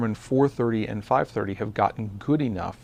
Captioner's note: none